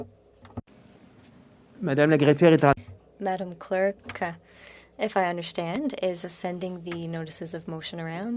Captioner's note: speaking French